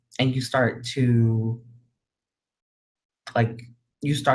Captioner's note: audio cuts out